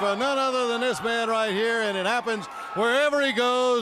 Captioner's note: crowd cheering